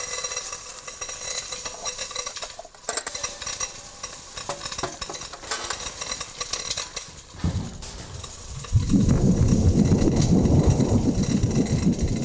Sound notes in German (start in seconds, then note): 1.1 Prasseln; 7.4 tiefer, grollender Donner